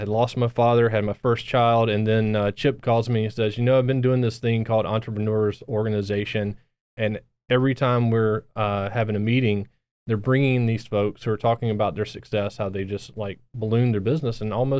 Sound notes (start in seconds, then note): none